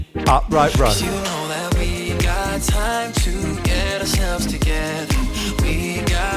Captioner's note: breathing heavily